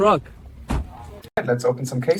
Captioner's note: door Slam